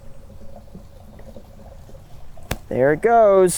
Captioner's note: water trickling